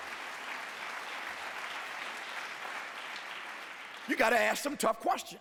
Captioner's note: applause